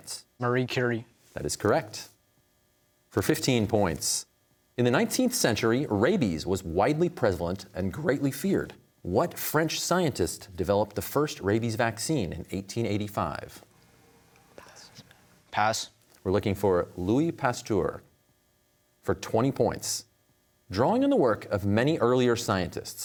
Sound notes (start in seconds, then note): 14.6 whispering